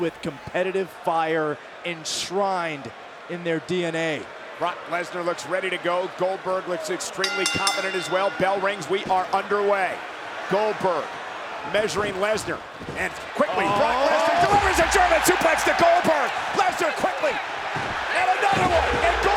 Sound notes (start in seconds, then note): 7.2 bell rings